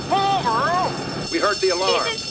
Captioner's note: banging on truck; alarm ringing